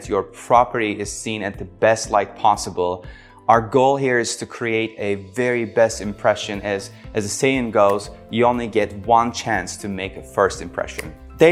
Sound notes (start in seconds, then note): 7.7 hands clapping